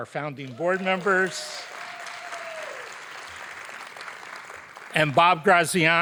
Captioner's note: audience applauding